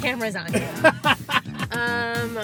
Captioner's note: laughs